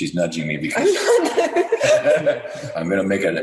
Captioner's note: both laughing